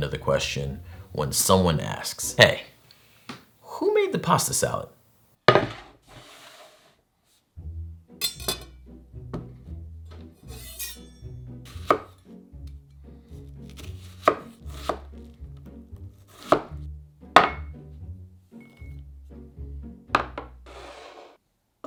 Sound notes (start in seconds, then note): 5.6 board sliding; 11.8 knife chopping